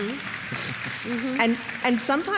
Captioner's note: applause